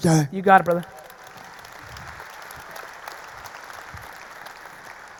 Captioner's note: audience applauding